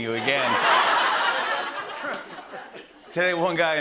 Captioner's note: laughter